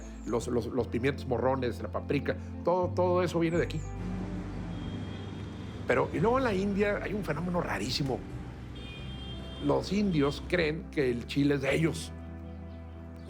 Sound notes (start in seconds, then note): 4.0 horns and traffic hubbub